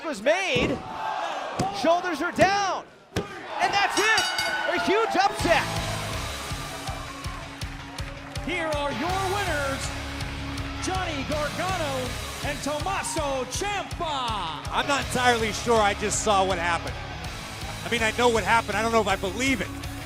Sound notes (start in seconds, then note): 3.9 bell ringing